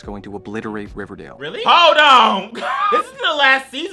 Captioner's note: laughs